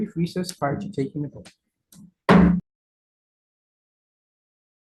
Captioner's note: gavel knock